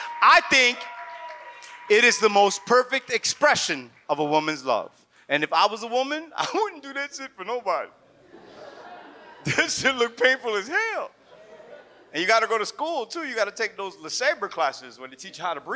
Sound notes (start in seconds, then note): 8.2 audience laughs